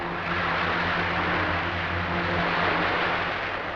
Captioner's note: wind howls